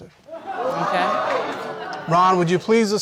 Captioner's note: audience exclaims